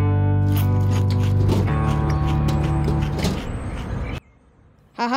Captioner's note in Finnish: ruoka rouskuu, kaupungin ääniä